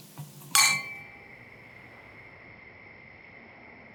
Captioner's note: crickets, gentle wind